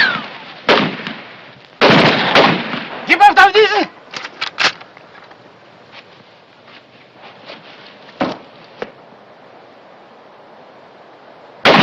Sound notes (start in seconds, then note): 2.4 shouting in german; 4.1 gun cocks